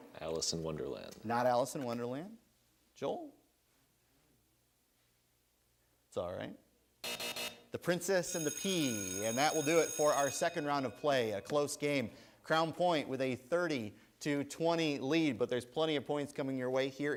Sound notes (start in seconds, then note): 7.0 buzzer sounds; 8.1 bell rings